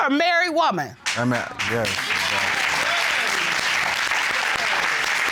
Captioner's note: audience cheering, applauding